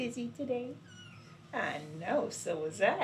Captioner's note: kitten mews